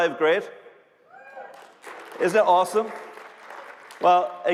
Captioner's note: applause